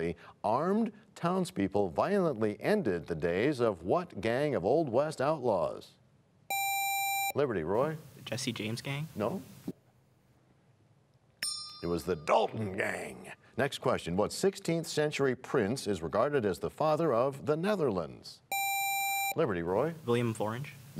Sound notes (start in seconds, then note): 13.2 bell rings, time expires